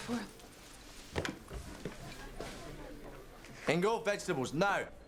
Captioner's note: patrons chattering